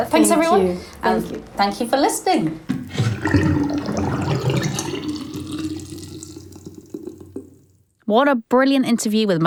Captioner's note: sound of water draining